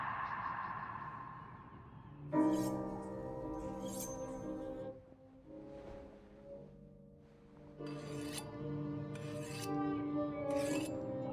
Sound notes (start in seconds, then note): 2.5 knife scrapes; 2.5 somber music